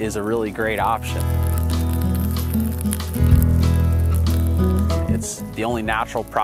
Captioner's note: trees crackling from fire